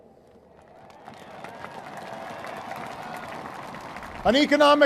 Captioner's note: applause